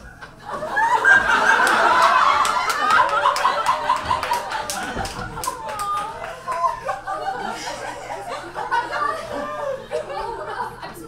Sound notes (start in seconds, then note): 1.8 audience laughs